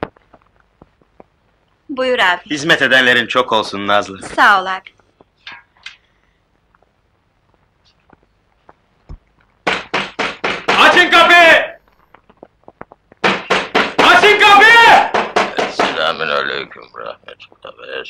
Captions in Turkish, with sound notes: - Buyur ağbi! - Hizmet edenlerin çok olsun Nazlı! - Sağ ol ağbi! [Kapı sert çalınıyor] - [Kapı sert çalınıyor] - Esselamün aleyküm...